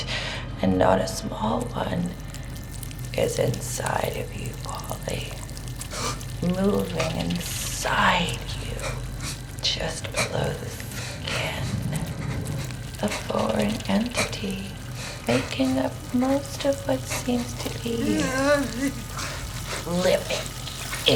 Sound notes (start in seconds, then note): 18.5 moaning